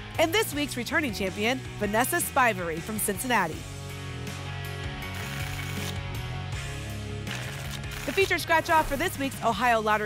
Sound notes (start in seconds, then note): 5.1 tickets shuffling